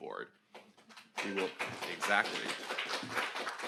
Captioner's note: audience applauds